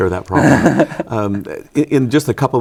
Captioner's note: laughing